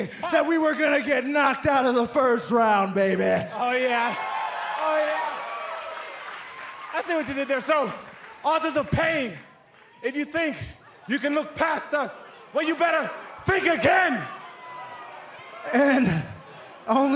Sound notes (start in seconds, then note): 7.6 crowd cheering; 15.6 crowd chatter